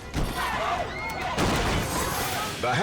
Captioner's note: customers chants; man thuds